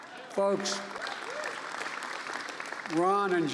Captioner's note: applause